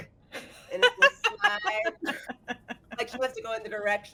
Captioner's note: laughing